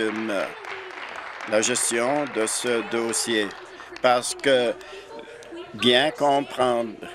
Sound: applause

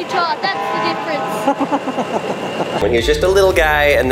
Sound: laughs

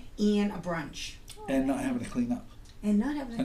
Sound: voiceover

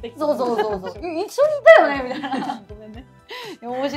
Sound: laughs

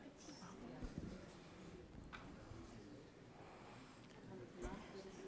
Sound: indistinct background chatter

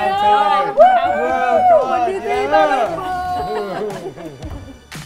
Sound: bloggers cheering; inspirational pop music

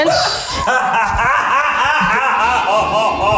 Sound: hilariously laughing

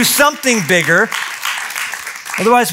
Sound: applause

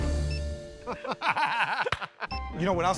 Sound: laughter

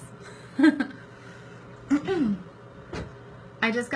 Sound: laughs

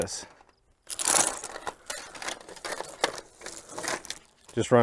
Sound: chain clattering

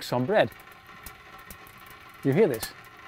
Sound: water in kettle boiling

